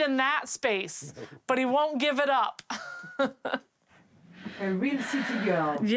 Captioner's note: laughs